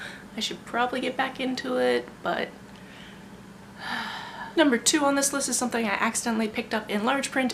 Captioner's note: sigh